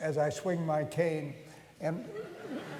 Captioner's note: laughter